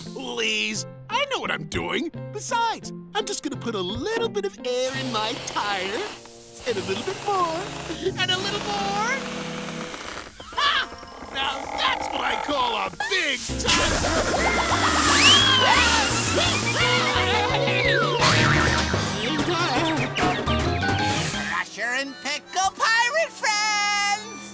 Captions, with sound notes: Please. I know what I'm doing. Besides, I'm just going to put a little bit of air in my tire. And a little bit more, and a little more. Ha! Now that's what I call a big tire-- [screaming] [moaning] Crusher and Pickle pirate friends!